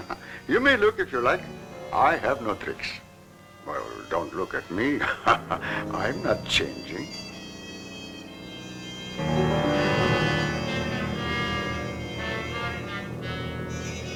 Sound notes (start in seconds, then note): 3.6 laughs; 8.4 dramatic music